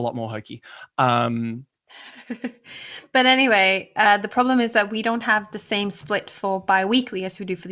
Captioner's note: laughs